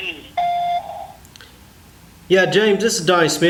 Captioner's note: beeping